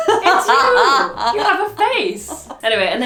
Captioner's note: laughs